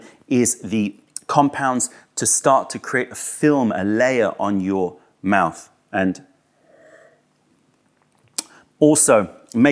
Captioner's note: sips tea